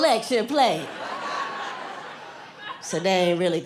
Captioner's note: laughter